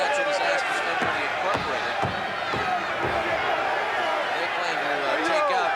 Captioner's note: crowd clamoring